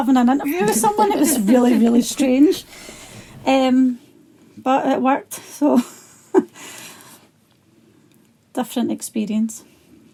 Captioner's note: laughter